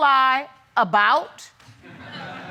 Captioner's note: audience laughs